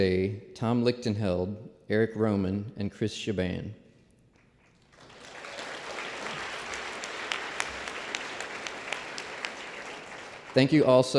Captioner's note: applause